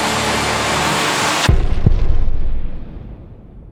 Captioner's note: loud blast